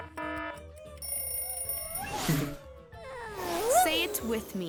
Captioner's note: buzzer; bell ringing